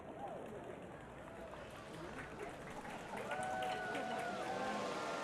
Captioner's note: audience cheering